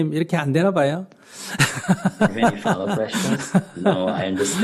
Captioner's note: laughter